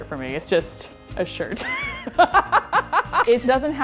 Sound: laughs

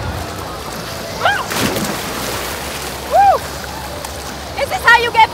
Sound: water splashing

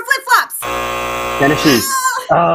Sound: buzzer sounding

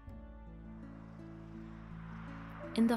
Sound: cars driving

